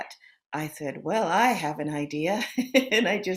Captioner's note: chuckles